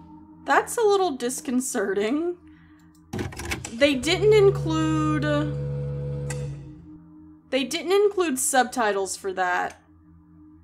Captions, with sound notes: That's a little disconcerting. They didn't include... [Loud Humming, then Click] They didn't include subtitles for that.